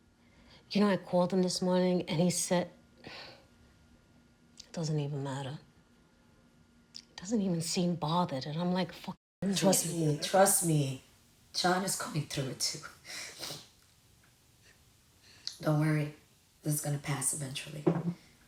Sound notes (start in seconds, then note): 3.1 sighs